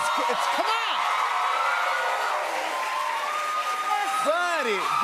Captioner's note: cheers and applause